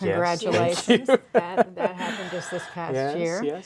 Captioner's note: laughs